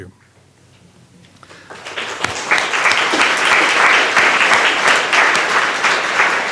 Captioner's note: applause